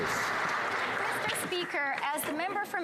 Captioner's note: some Applause